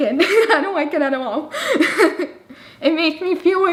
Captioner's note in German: lacht